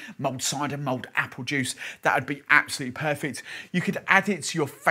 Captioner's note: none